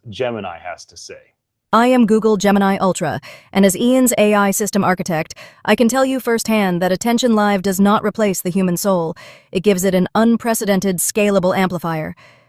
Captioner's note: Gemini voice clip plays